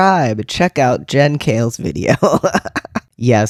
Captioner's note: laugh